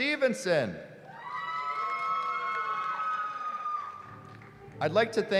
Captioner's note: cheering